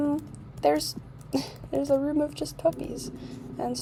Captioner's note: laugh